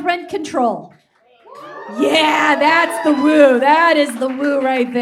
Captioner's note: audience whoops and claps